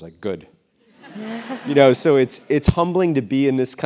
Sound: laugh

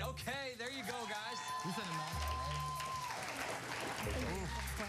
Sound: cheers and applause

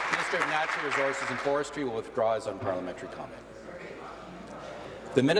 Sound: applause

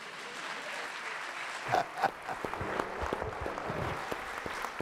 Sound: audience applauding

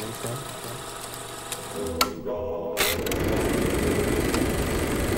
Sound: projector clicking

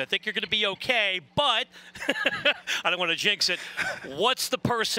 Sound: laughs

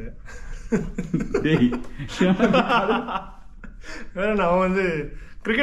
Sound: laughs

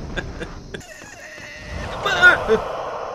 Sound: quietly; grunts

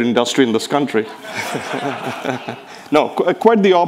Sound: people laughing

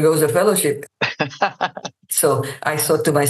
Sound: laughs

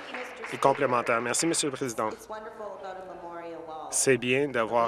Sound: applause

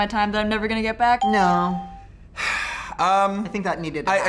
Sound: sighs

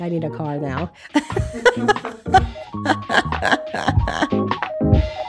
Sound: laughs

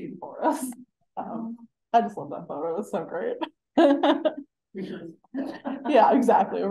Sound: laughing

